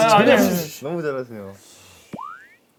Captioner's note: shhh